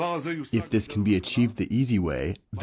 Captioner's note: through translator